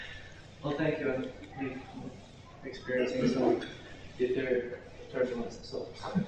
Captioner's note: chuckles